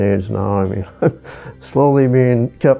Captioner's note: chuckles